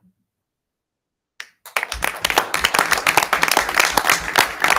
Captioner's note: all applauding